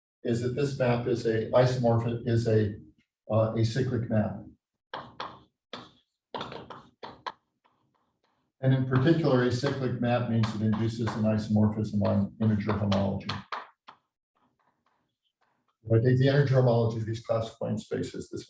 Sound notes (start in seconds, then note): 5.0 chalkboard tapping loudly